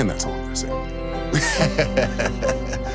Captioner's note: this beautiful person laughs